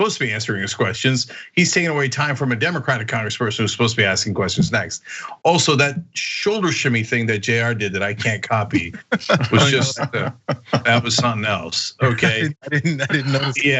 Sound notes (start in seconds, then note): 8.0 laugh